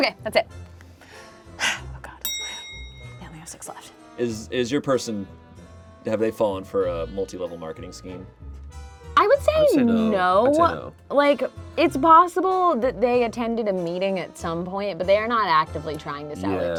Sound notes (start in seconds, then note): 2.2 bell clicking sound